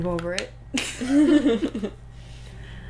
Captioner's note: laughter